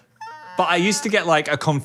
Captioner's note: imitating dog whimpering